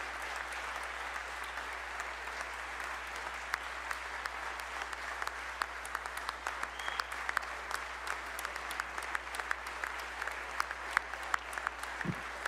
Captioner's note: applause